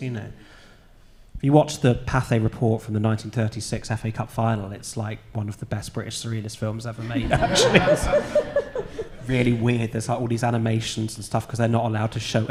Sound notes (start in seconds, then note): 8.7 audience laughing